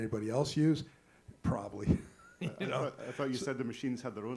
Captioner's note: laughs